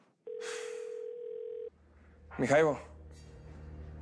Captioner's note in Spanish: Timbre de celular